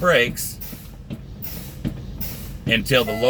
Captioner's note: air hissing